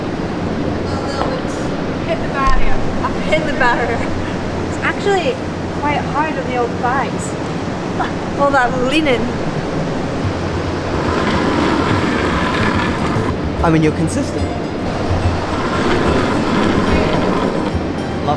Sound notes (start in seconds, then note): 11.3 curling stone roaring